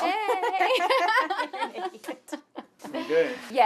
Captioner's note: laughter